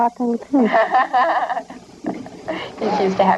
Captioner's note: laughter